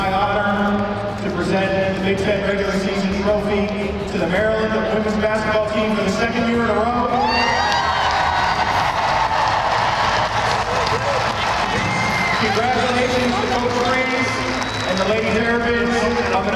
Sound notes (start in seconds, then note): 7.1 cheers and applause